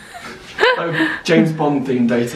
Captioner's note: laughs